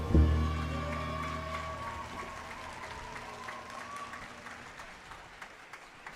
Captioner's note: audience cheers and applauds